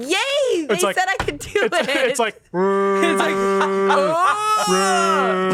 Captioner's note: groans; everyone groans